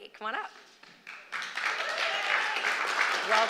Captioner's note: applause